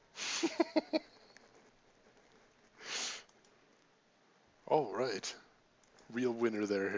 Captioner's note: laughs